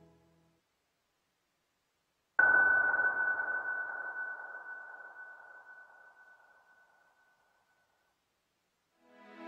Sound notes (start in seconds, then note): 2.4 bell ring tone